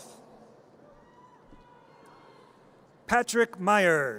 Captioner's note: audience cheers